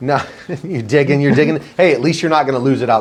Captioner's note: laughs